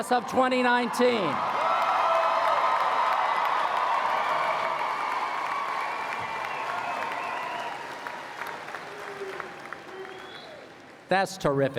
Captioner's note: applause